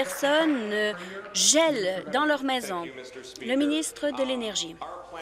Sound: applause

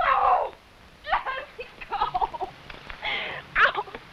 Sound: cries

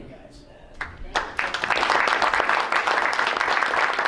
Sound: crowd applauds

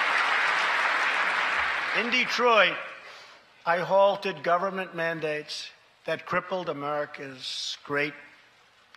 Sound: applause

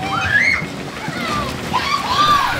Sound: splash!; grrr, grrr!

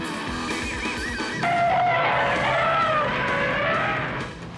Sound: trumpeting

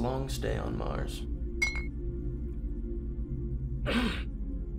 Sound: cups clink

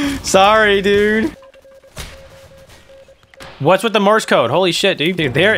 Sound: intense morse code action

